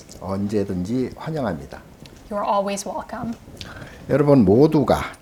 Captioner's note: speaking Korean